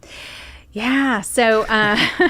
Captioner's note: laughing